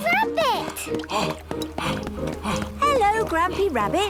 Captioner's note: panting